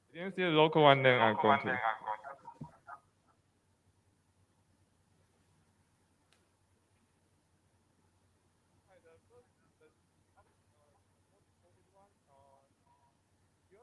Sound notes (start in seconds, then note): 8.8 audio distortion